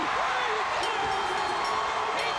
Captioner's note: bell ringing